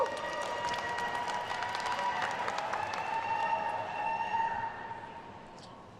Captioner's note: attendees cheering and applauding